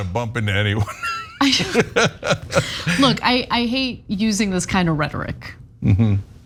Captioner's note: laugh